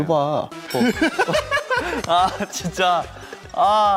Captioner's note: smack